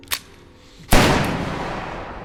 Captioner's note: gun fires